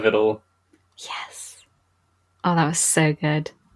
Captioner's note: whispers